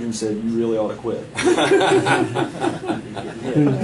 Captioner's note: laughing